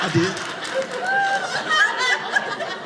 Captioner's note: audience laughing